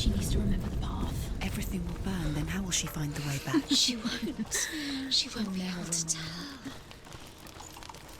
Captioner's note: laughs